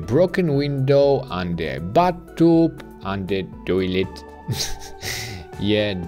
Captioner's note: chuckles